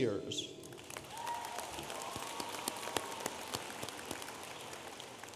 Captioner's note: audience applauding